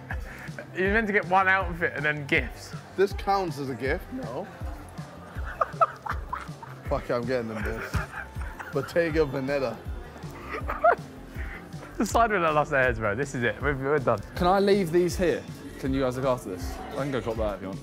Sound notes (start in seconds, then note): 5.0 laughing